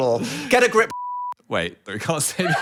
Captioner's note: beeping